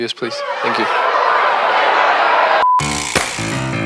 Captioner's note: press yelling; upbeat music